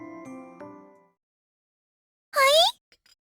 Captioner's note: silence